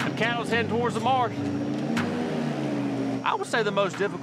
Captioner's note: motor whirring